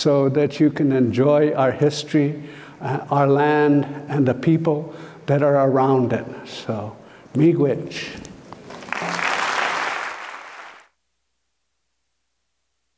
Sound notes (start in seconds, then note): 5.8 foreign speaking; 8.6 applauds